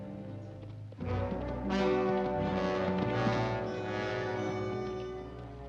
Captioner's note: hoofbeats; dramatic music; ominous dramatic music